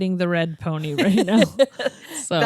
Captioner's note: laughs